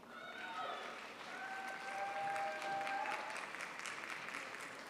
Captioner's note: crowd applauds